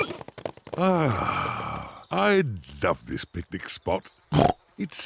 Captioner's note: oink